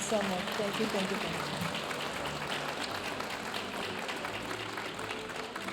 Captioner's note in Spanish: hablando en inglés; aplausos de la audiencia